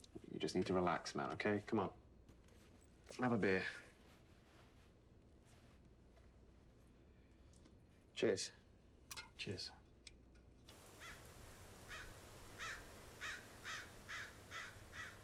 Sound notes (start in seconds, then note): 10.8 birds squawking